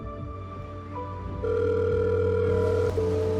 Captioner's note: telephone ringing